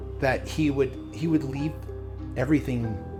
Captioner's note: none